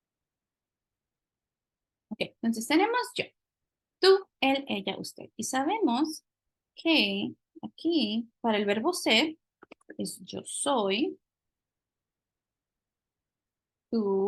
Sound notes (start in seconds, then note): 1.6 speaking spanish